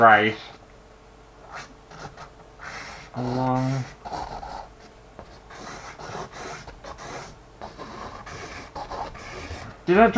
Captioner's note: pen Scraping On Canvas